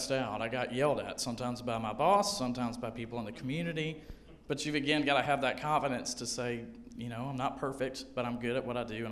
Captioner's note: none